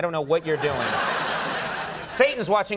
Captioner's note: audience laughing